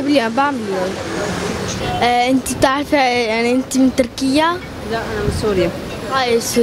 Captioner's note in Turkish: arapça konuşuyorlar